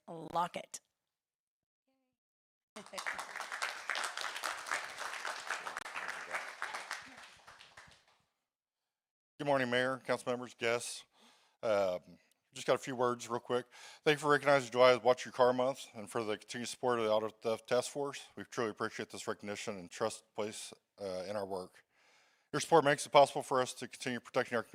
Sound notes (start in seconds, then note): 6.4 applause